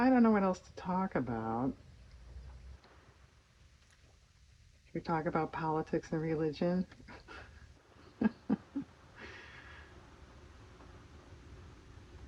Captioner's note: laughs